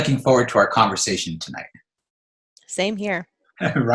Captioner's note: laughs